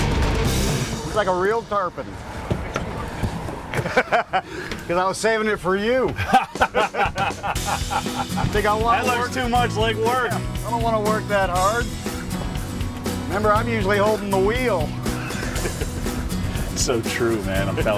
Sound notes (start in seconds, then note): 3.6 laughs; 6.1 both laugh